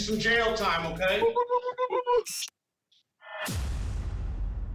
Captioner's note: hooting